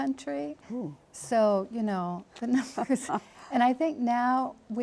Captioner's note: laughs